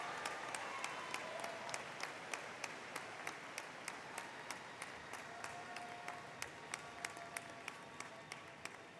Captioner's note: applause